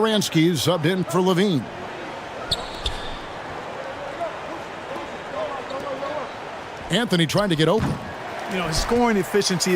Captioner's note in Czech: Potlesk